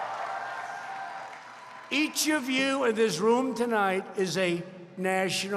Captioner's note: applause